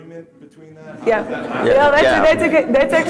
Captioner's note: laughter